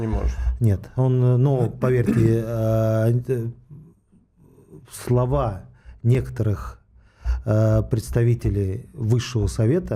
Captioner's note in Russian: откашливается